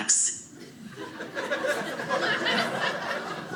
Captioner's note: audience laughing